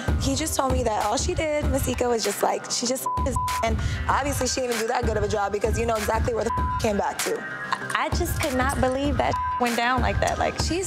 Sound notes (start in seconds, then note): 3.0 beep; 6.4 beep; 9.2 beep